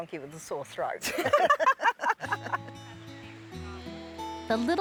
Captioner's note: laughter